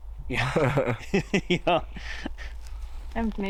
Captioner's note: laughs; laughing